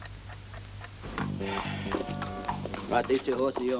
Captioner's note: rapid instrumental music; McIntyre sighs